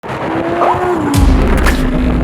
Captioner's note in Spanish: Sonido de lamborghini